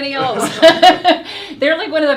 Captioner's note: both laughing